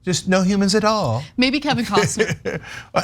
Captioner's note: laugh